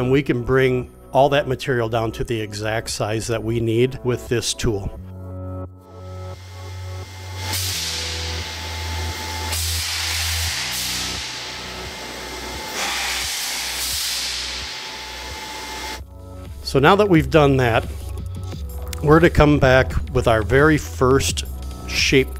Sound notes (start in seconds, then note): 5.8 electric music playing; 6.1 machine buzzing